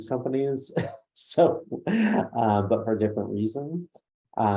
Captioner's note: laughs